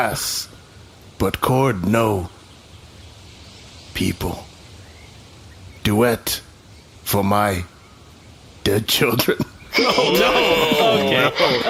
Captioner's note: assorted worry sounds